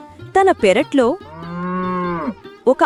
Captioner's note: cow Mooing